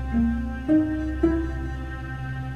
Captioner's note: machines beeping